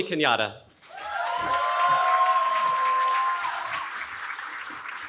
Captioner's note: cheering